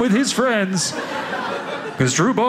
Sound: audience laughing

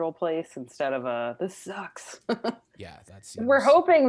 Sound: laughs

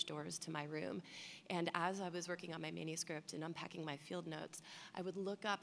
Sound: none

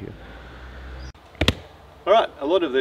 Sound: thumps tree trunk

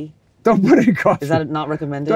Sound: laughs

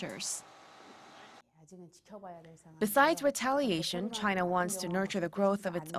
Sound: Korean

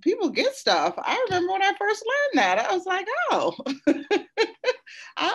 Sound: laughs

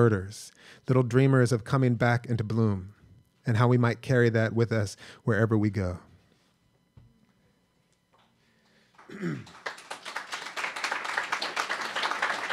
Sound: applause

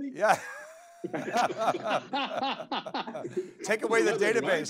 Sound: laughing

